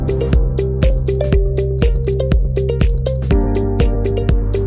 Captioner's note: mouse clicking